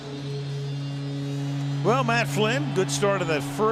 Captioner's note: horn blowing